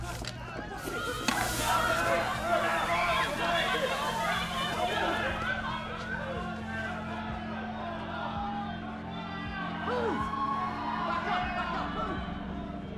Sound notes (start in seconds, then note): 0.2 mob panic; 0.6 tear gas hissing; 1.0 screams